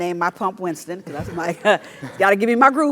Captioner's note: laugh